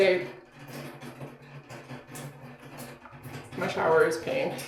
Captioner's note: water trickling